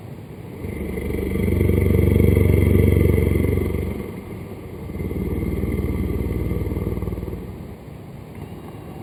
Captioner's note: creepy sound